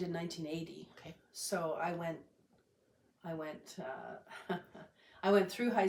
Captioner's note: laughs